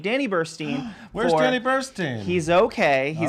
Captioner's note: gasps